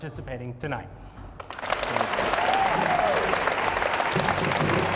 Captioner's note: audience applauding